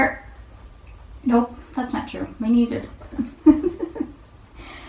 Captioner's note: chuckles